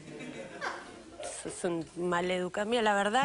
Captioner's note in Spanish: Risas